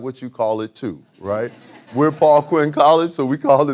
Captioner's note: audience laughing